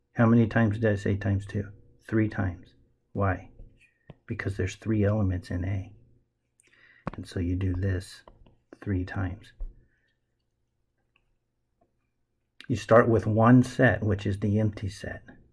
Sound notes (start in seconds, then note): 8.2 tapping Sounds